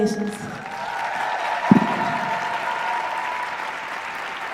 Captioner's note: applause